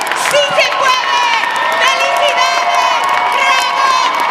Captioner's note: speaking Spanish